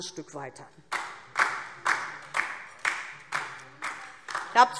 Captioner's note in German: Beifall DIE LINKE